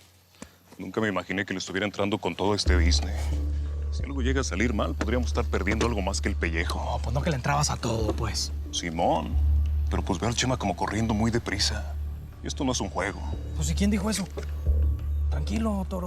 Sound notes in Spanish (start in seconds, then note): none